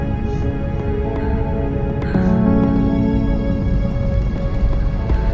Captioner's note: none